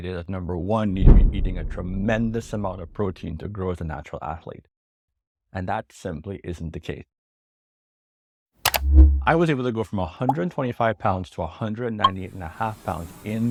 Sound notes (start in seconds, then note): 8.6 remote clicks